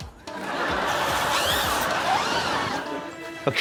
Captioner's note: laughter; zips whoosh